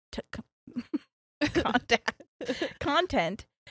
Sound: stuttering

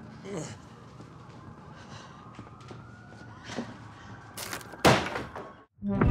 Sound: sirens wail; deep groans

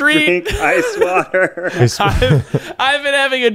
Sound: laughing

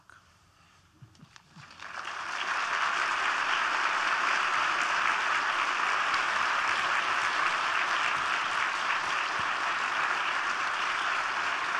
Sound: applause

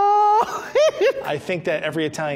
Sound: laughing

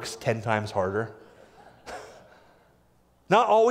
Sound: laughter

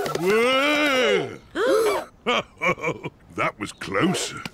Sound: all gasp; chuckles; snorts

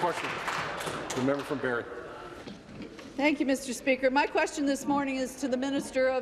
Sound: applause

